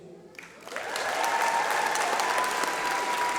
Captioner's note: applause